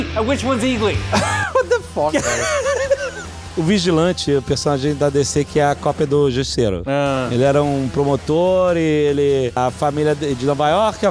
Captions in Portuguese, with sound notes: - *risos* What the fuck? - O Vigilante é um personagem da DC que é a cópia do Justiceiro. Ele era um promotor, a família de Nova Iorque,